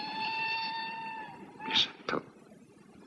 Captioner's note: train whistle blowing